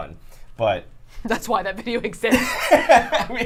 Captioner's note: laughs